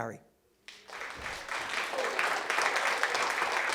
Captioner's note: applause